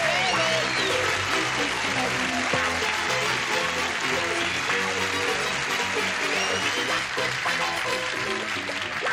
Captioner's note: cheering